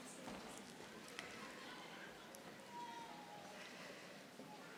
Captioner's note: none